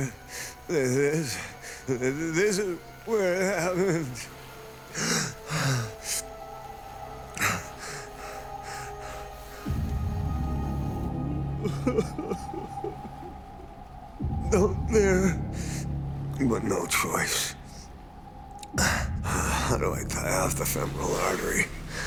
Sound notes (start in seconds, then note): 4.8 gasping; 11.3 sobbing